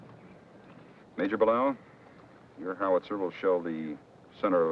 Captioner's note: none